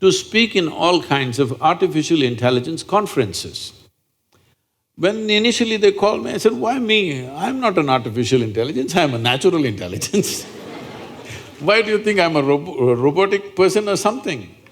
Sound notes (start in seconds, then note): 10.2 laughter